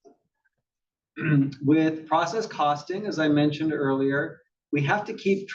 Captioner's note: cough